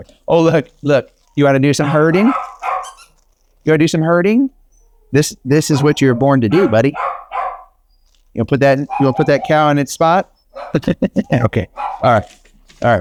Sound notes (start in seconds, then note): 1.8 toy squeaks; 10.5 laughs